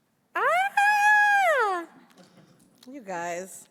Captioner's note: screams